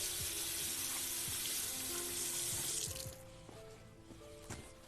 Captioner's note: faucet running